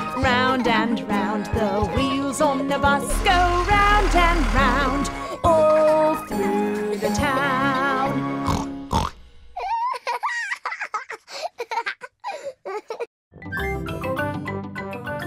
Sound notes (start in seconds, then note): 8.4 oinking; 9.6 laughing